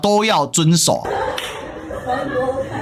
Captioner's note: laughter